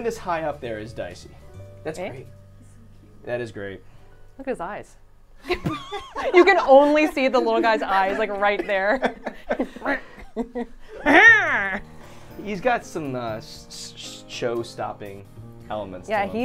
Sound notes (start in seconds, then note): 5.4 all laughing